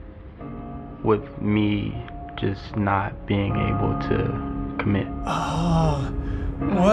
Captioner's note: annoyed sigh